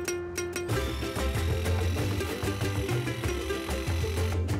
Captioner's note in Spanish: sonido de la sierra